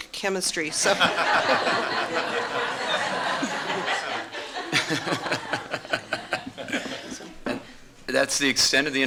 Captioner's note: laughter